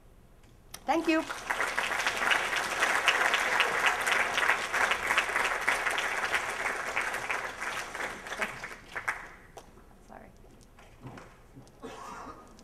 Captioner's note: applause